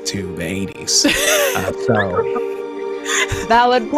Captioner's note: laughing